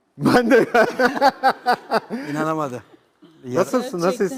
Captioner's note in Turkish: kahkaha